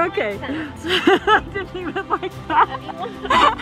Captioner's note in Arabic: يضحك